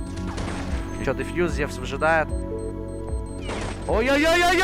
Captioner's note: gunshots firing